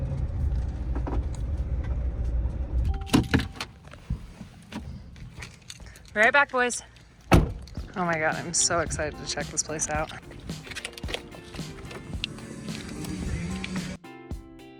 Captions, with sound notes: (car dinging) Be right back boys. (door closing) Oh my god, I'm so excited to check this place out. (upbeat music)